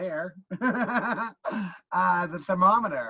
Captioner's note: laughing